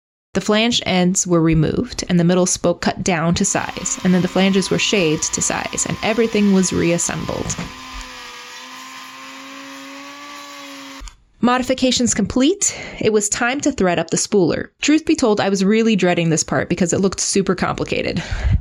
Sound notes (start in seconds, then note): 7.7 power tool sounding